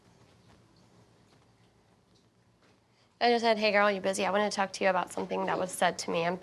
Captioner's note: none